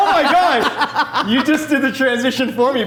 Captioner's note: laughing